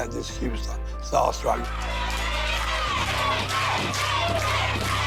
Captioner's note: chanting